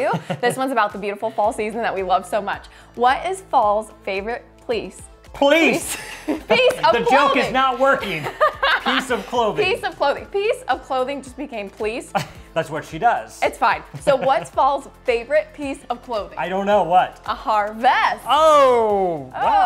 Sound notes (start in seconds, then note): 13.9 both laughing; 13.9 laughing